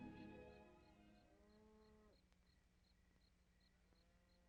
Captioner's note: insects chirping